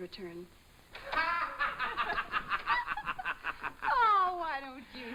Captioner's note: laughing